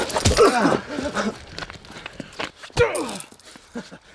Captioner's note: fists thudding